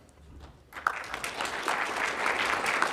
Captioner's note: audience applauding